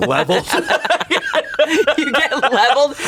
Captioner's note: everyone laughs